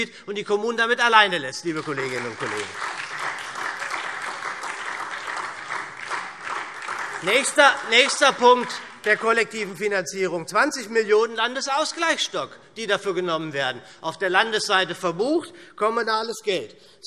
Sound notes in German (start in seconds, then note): 1.6 Beifall